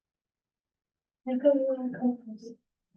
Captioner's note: muffled voice